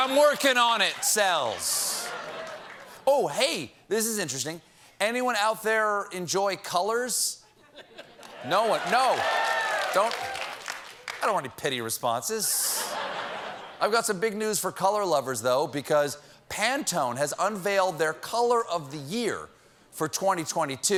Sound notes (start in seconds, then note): 8.3 cheers and applause